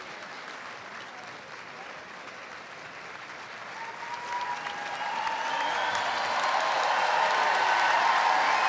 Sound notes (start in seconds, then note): 3.7 audience cheers